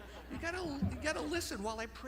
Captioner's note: chuckling